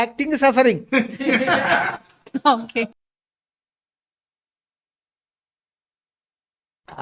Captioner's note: laughs